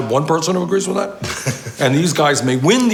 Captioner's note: laughs